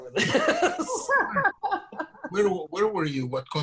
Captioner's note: laughing